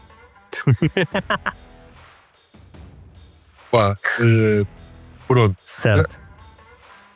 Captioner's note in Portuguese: Risos